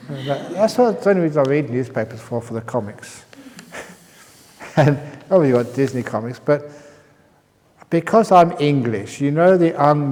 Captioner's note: chuckles